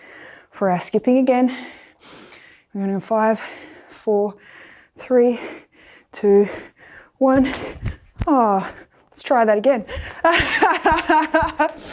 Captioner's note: laughs